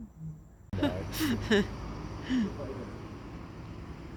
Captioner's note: laughs